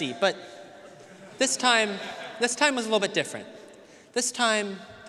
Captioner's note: audience laughing